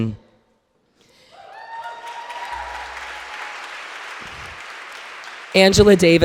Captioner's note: audience cheering and applauding